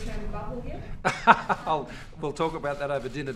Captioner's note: laughs